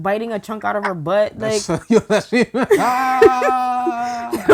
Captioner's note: laughing